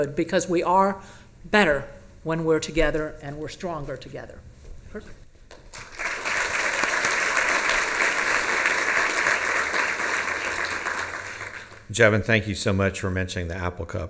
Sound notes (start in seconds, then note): 5.5 applause